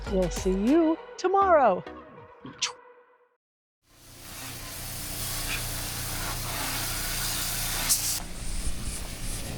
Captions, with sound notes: We'll see you tomorrow. (water running)